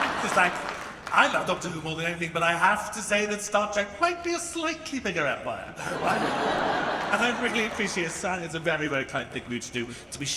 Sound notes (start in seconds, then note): 0.0 audience laughing; 5.8 audience laughs